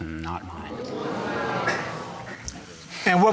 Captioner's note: audience gasps